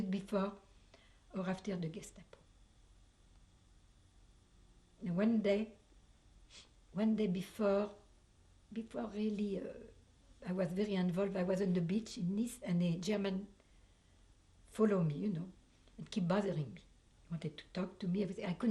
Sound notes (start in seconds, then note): 2.0 pauses for 3 seconds